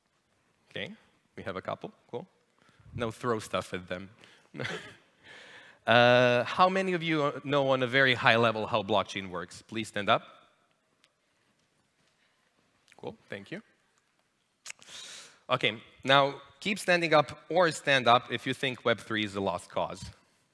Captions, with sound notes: Okay, we have a couple. Cool. Now throw stuff at them. [chuckles] How many of you know on a very high level how blockchain works? Please stand up. Cool, thank you. Okay, now keep standing up or stand up if you think Web3 is a lost cause.